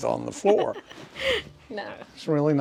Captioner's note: laughs